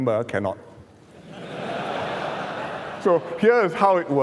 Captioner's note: laughter